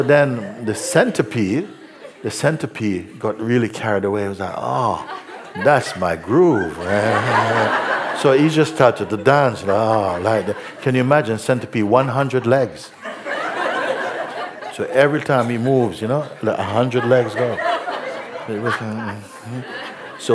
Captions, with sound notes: Then the centipede got really carried away and was like, 'Ah! That's my groove!' [laughter] So he just started to dance, 'Ah -ah', like that. Can you imagine a centipede - one hundred legs? So every time he moves, a hundred legs go! [laughter]